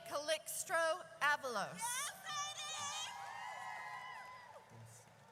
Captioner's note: audience cheers